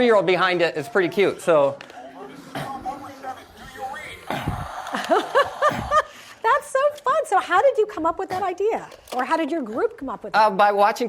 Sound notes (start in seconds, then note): 4.5 laughs